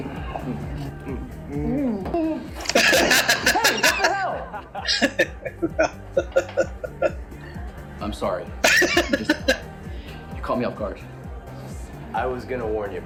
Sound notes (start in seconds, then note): 1.4 laughing; 8.6 laughing